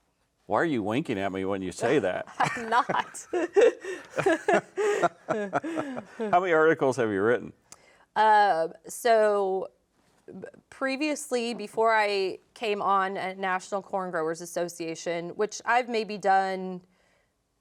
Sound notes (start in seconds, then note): 2.3 both laughing